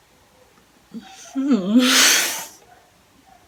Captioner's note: weird mix of laughing and exhaling?